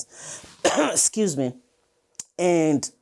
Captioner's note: coughs